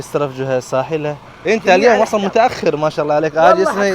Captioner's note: Arabic